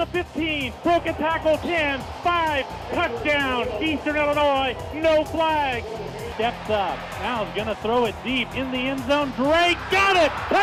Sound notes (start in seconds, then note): 5.8 crowd cheers